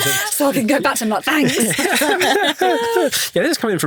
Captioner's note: hosts laughing